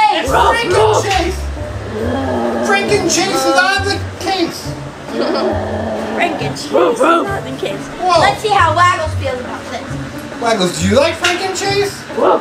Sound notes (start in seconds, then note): 5.1 assistant giggles